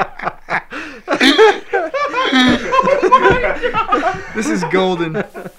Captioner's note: laughter